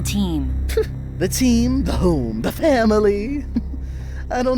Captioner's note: chortles